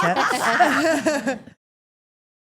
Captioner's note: all laughing